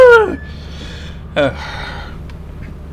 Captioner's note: back to serious sigh